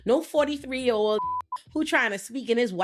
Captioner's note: beeping